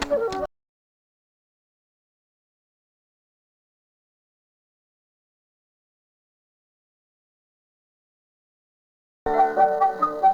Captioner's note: audio cuts out